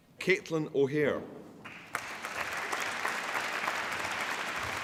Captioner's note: applause